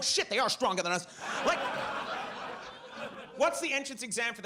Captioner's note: audience laughs